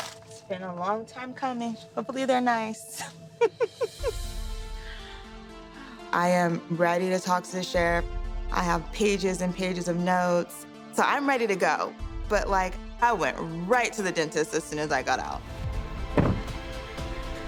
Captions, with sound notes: It's been a long time coming. Hopefully, they're nice. [laughs] I am ready to talk to the sheriff. I have pages and pages of notes, so I'm ready to go. But like I went right to the dentist as soon as I got out.